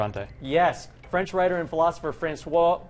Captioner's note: none